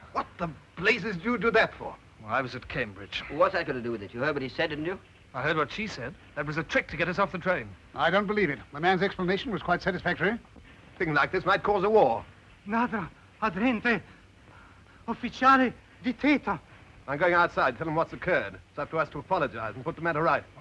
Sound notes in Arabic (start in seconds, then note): 12.4 الخادم يتحدث لغة أجنبية